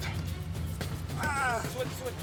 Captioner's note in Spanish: quejidos